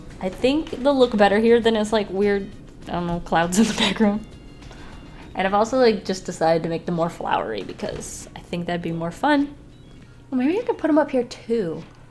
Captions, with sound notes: I think they'll look better here than as like weird - I dunno, clouds in the background. [Laughs] And I've also just decided to make them more flowery because I think that'd be more fun. Well, maybe I could put them up here too.